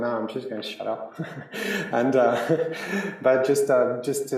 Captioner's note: laughs